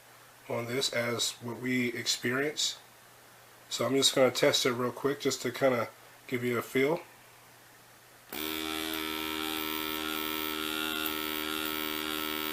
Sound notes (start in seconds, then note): 8.3 aspirator buzzes